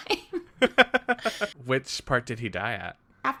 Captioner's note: laughs